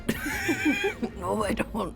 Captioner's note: laughter